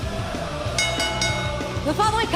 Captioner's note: bell ringing